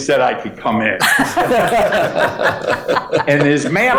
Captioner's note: all laughing